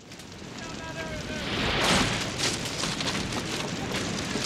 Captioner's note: fire cracking